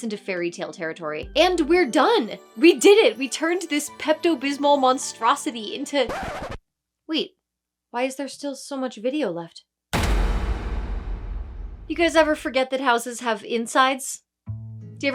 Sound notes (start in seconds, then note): 6.0 record Scratch